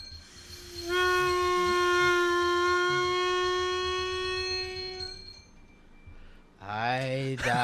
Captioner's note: pitch lowered; long, lonesome toot; crescendo of dings